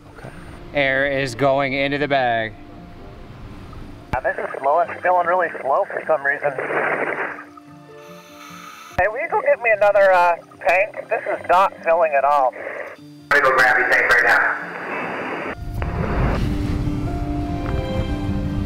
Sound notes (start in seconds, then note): 13.8 radio Voice; 16.0 gentle music